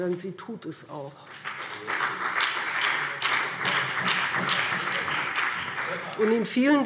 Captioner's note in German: Beifall BÜNDNIS 90/DIE GRÜNEN und CDU